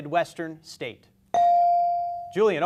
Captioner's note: beep